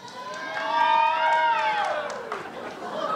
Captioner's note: two strong cheers??, laughter